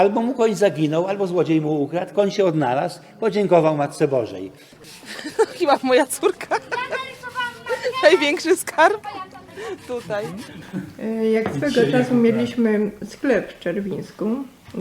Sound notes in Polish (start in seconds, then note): 5.0 śmiech